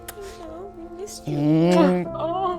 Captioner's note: kissing; gentle poignant music